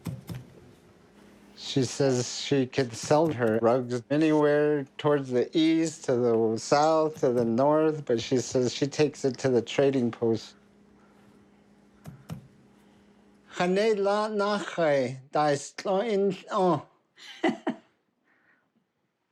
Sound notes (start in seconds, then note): 11.5 speaking navajo